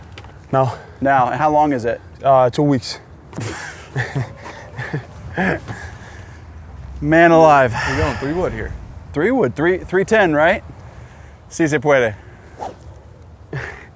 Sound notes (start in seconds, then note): 3.5 giggling; 11.6 speaks Spanish